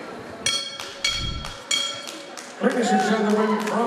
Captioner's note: bell ringing